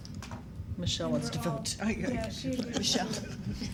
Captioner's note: woman laughing